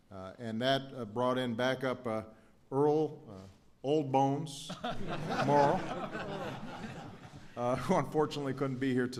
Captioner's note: laughter